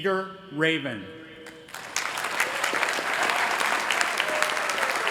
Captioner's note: applause